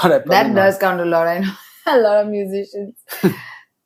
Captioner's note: laughs